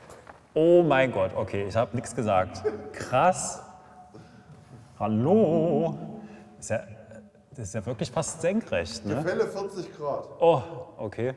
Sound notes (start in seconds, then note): 3.6 it echoes